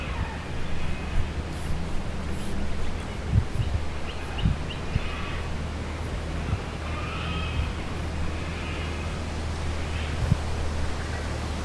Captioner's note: various birds